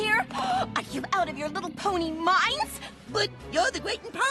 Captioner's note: gasps